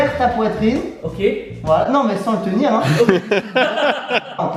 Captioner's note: laughs